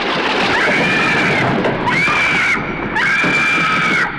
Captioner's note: screaming